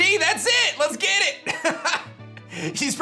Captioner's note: laughs